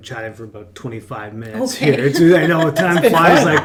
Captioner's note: laughs